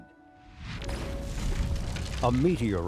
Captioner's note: meteorite crashing through roof